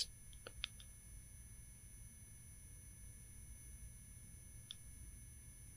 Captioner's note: high pitch ringing